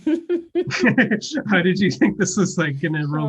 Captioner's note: laugh